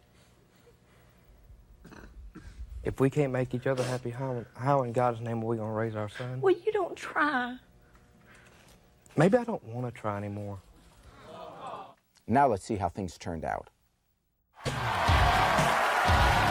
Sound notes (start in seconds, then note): 11.0 audience murmuring; 16.0 heavy rock music; 16.2 audience cheering